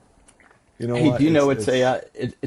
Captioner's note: laughing